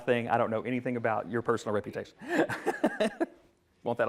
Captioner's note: laughs